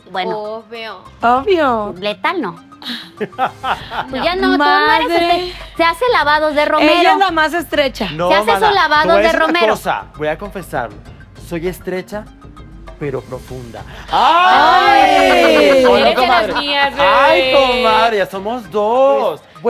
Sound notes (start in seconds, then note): 14.0 collective gag